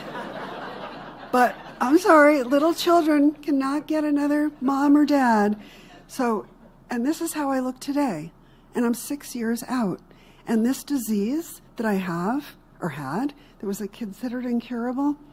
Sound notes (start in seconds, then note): 5.0 laughter